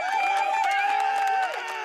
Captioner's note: audience cheering